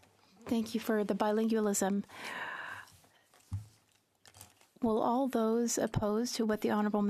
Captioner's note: speaking French